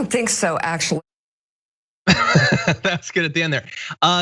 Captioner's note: laugh